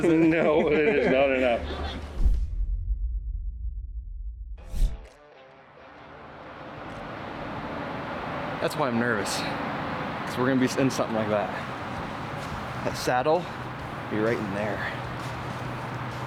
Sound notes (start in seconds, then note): 2.1 graphic whooshes